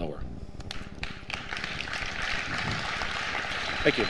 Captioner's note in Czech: potlesk